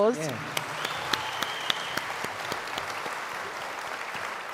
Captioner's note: audience applauds